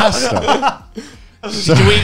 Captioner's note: laughs